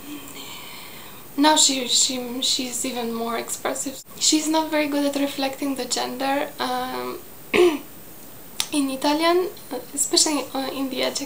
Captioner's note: in Italian